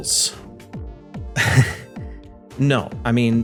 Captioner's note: chuckles